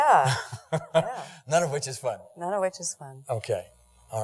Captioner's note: laughs